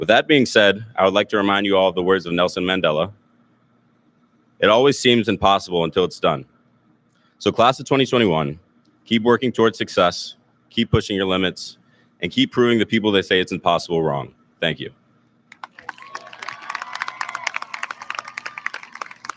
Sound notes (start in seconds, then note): 15.5 audience lauds